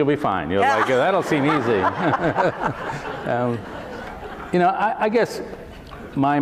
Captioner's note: laughter